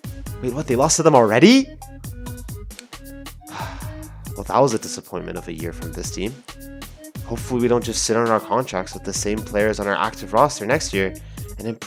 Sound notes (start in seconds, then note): 3.4 sigh